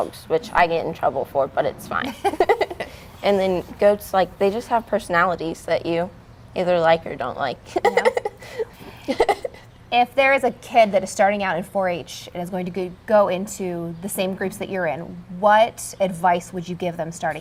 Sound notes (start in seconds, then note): 2.0 both laugh; 7.7 laughs